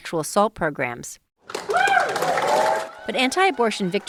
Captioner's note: cheering